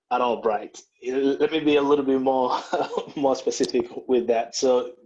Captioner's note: laughs